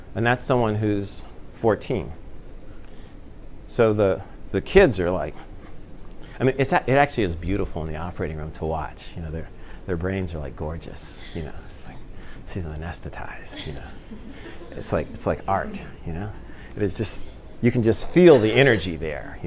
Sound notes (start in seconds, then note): 13.6 laughter